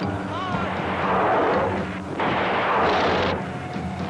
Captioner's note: soldiers yelling; guns firing